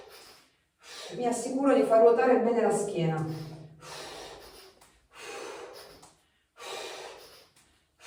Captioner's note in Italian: sospiri; sbuffare